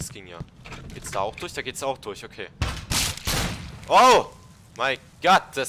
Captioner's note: glock shot